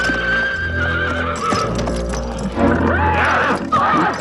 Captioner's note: horse neighing